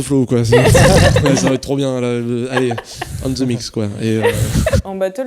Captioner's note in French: rires